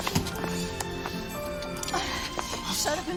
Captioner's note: sirens blaring